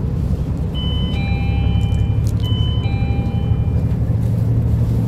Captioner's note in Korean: 하차벨 소리